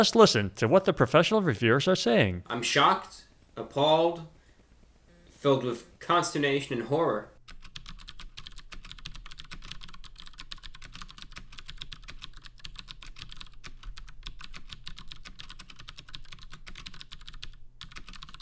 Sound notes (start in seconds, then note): 7.4 keyboard typing sounds